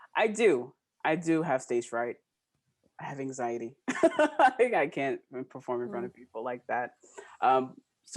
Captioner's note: laughing